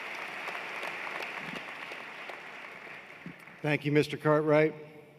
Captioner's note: applause